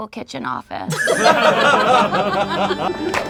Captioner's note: group laughs; organ music